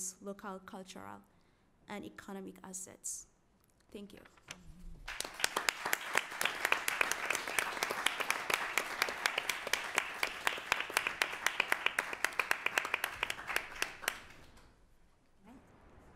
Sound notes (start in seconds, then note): 6.1 applause